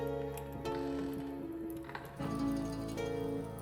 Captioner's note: bed creaks